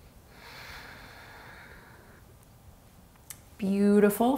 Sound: inhaling deeply; exhaling strongly

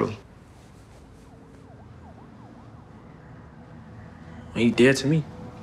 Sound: siren wailing; tense music

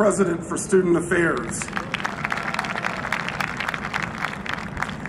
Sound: applause

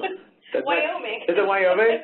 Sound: laughs

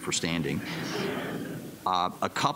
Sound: laughter

